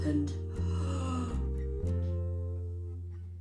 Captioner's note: gasp